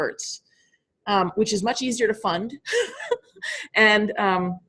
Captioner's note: laughing